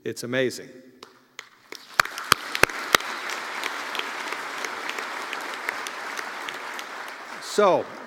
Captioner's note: applause